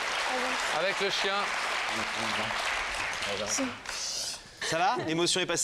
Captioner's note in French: applaudissements